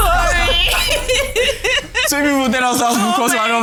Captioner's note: laughs